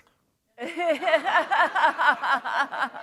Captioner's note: laughter